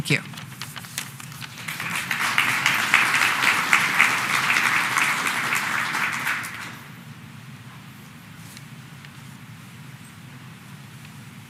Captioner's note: applause